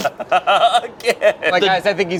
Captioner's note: group laughs